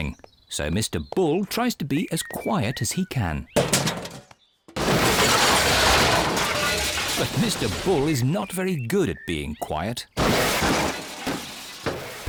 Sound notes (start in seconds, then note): 4.6 garbage clattering; 10.2 clattering